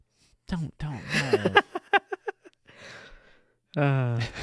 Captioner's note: laughing